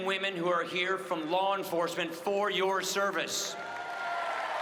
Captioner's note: applause